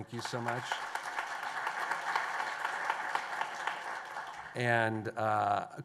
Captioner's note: applause